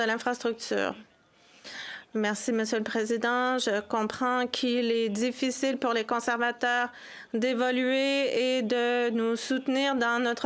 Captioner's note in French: voix de l'interprète